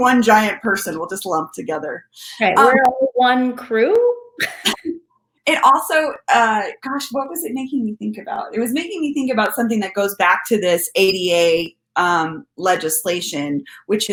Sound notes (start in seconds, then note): 2.5 audio distorting